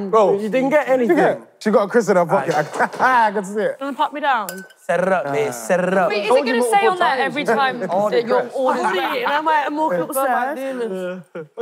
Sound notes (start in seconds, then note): 2.9 laughs